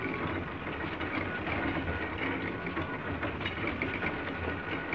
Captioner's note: printing press whirring